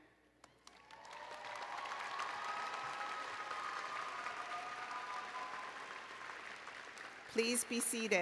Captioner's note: applause and Cheering